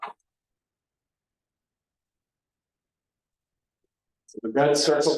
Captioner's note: silence